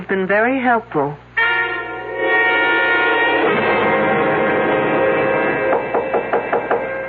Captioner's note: knocking